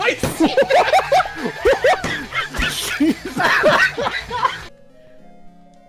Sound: racous laughter

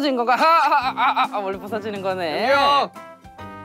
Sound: A mischievous laugh

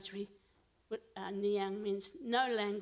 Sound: foreign language

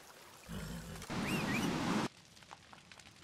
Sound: whistle

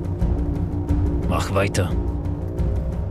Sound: speaking german

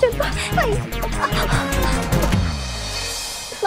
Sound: breathing loudly

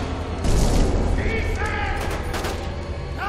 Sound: gunfire; shouting

